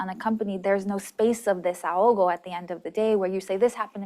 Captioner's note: spanish